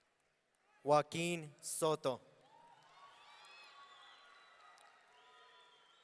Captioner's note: audience cheering